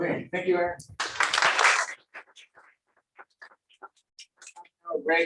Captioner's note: applause